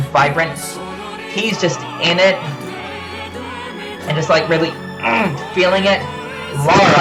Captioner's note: growls